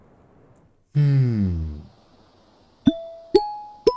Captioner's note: exhale; ascending pop dings